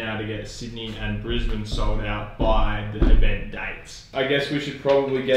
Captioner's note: bangs on table